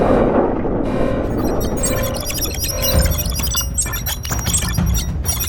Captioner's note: explosion booms; male prototype blipping